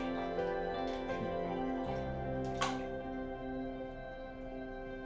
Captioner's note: none